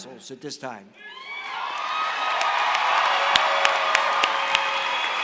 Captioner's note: applause